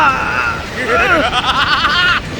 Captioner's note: maniacal laughter